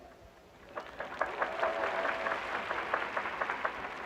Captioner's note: audience cheering